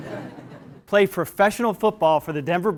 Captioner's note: laugh